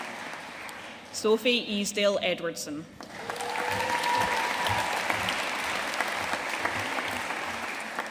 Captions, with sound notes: Sophie Easdale Edwardson. (AUDIENCE CHEERING AND APPLAUDING)